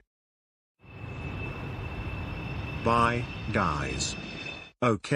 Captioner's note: plane whooshes